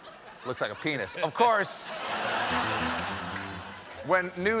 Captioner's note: laughter